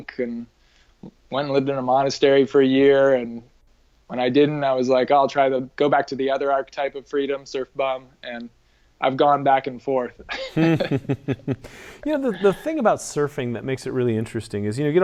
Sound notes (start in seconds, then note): 10.2 laughs